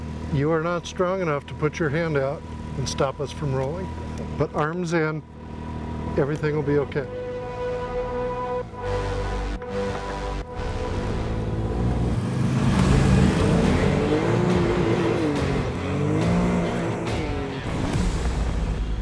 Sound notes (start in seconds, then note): 7.6 intense music; 11.1 engine revs